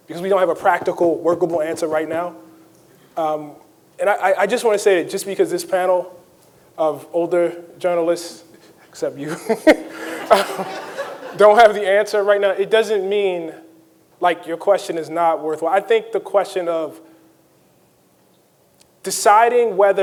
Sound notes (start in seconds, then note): 9.3 laughs; 9.3 audience laughing